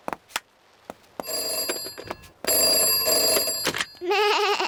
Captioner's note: ringing; bleats